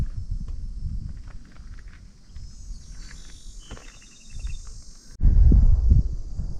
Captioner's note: wind blowing